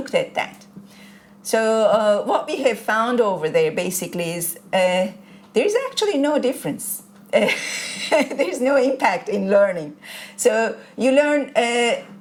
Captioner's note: laughter